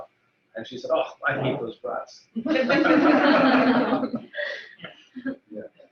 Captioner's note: laughter